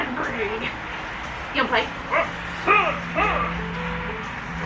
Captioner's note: hunh! hunh!